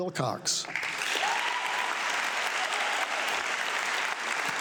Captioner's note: audience clapping